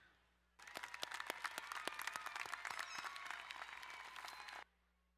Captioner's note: crowd cheering and applauding